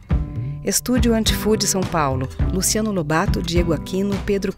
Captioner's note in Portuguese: palmas ritmadas